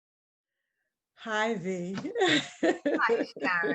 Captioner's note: laughs